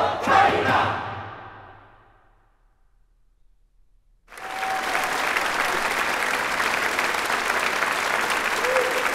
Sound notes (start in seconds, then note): 4.3 audience applauds